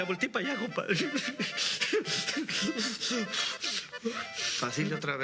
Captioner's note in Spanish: sollozos